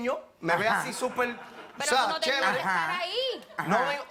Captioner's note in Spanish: Risas